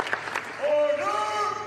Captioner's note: applause